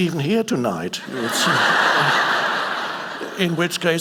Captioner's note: audience laughing